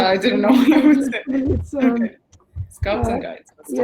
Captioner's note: chatter